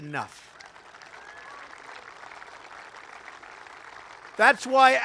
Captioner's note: applause